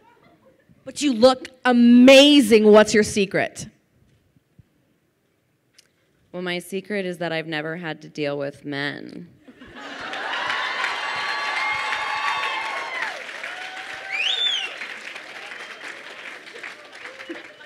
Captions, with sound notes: But you look amazing; what's your secret? - Well, my secret is that I've never had to deal with men. (crowd cheers and applauds)